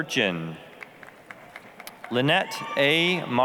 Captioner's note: applause